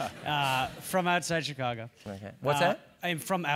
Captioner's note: laugh